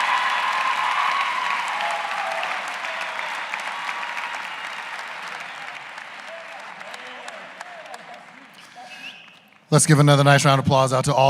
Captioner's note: cheers and applause